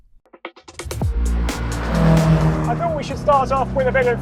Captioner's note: upbeat music; vehicle revs